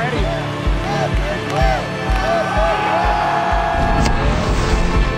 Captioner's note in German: Familie jubelt